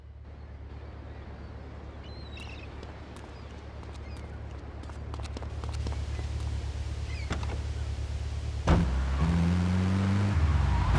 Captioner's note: car engine roaring